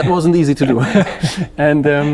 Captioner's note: gentlemen laughing